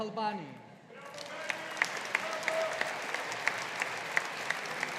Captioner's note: audience applauding